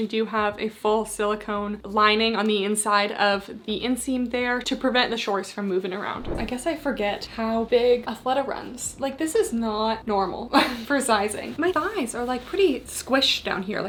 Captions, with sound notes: do have a full silicone lining on the inside of the inseam there to prevent the short from moving around. [screen whooshing] I guess I forget how big Athleta runs, like this is not normal for sizing. My thighs are like pretty squished down here,